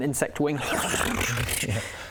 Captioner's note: chaotic flapping noises